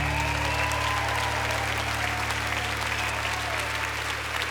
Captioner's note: audience applauds